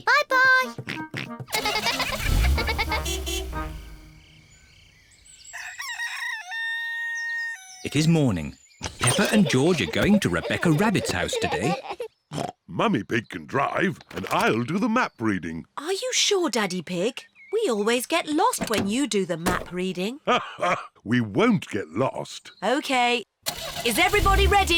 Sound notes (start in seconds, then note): 1.0 horn toots; 1.4 giggling; 5.4 rooster crows; 13.0 snorts; 20.2 laughs